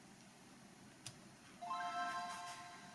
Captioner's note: click